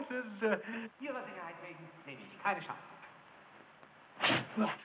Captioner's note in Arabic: الصوت المنطوق باللغة الألمانية